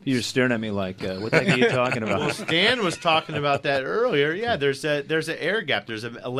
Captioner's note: group laughs